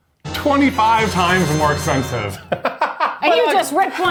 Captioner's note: laughs